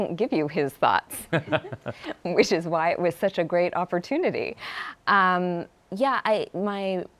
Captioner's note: laughs